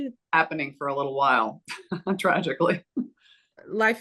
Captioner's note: chuckles